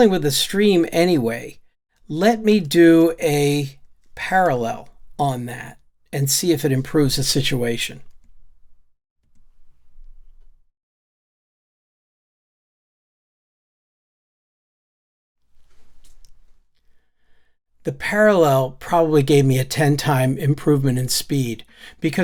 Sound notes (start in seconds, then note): 9.3 silence